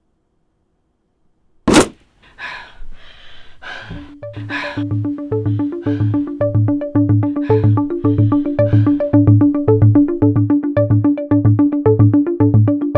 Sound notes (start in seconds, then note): 1.6 big thump on outside wall; 6.0 tense music